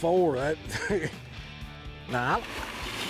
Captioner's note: chuckles